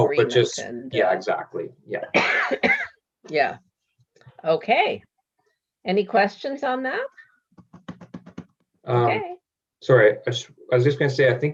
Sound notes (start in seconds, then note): 8.3 panel member banging